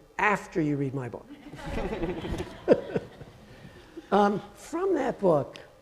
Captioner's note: audience laughing